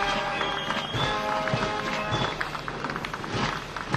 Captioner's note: applause